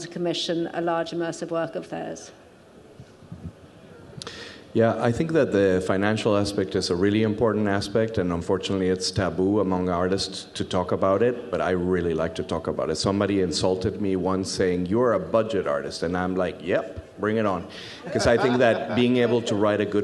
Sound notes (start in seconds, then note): 18.0 audience laughs